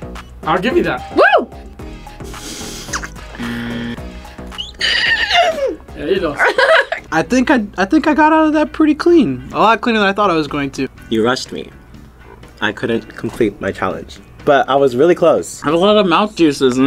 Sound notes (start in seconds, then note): 2.1 laughs quietly; 3.3 buzzer